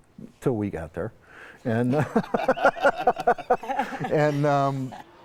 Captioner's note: laughing